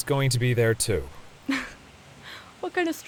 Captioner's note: scoffs